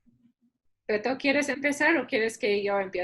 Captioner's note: speaking spanish